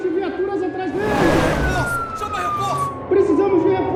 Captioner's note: sergeant yelling; siren wailing